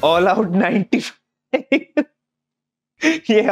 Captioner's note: laughing